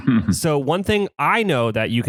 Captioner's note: laughs